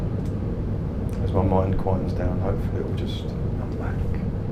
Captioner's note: sighs